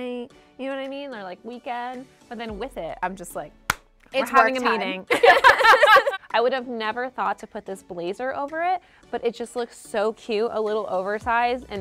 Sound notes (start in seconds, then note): 3.7 claps; 5.0 both laughing